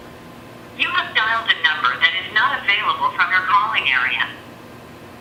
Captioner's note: phone